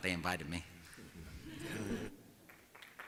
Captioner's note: chuckling; applause